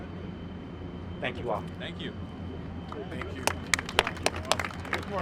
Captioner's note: applause